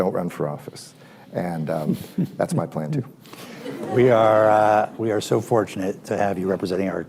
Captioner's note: laughter